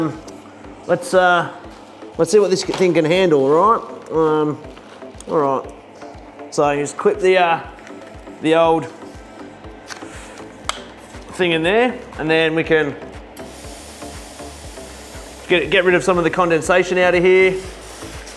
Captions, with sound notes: Let's see what this thing gonna handle, alright? Alright so I just clip the, the old thing in there and then we can, (water steaming) get rid of some of the condensation outta here.